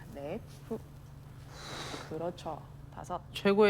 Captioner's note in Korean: 호흡 소리